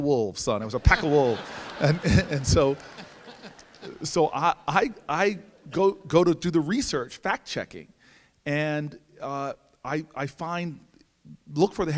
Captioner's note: laughter